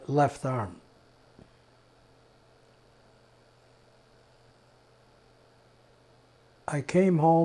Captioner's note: pauses 6 seconds